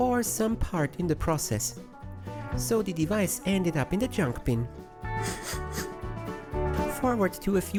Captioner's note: sniffles